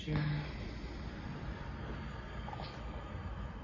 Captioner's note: exhales